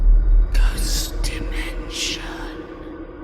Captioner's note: ghostly Voice